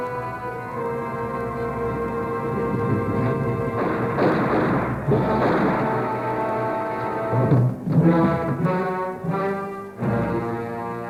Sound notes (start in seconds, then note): 3.8 gunshots